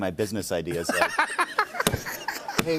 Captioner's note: laughter